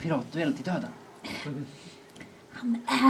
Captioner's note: sighs